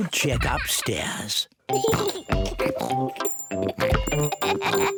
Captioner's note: both giggling and oinking